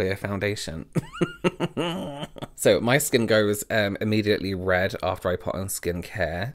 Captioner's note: laughter